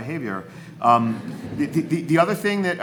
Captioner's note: audience laughs